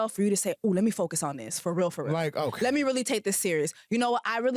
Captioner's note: none